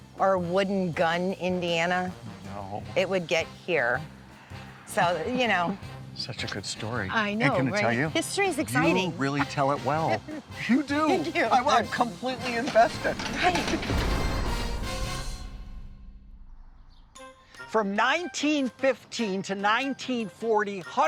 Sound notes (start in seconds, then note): 12.4 door slams; 13.4 dramatic music